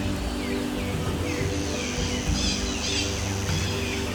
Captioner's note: none